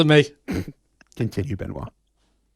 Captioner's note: laughs